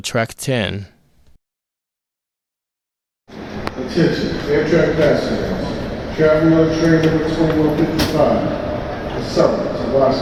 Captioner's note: male announcement